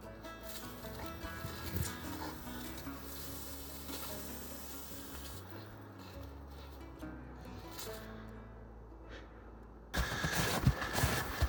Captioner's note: sizzling; sizzling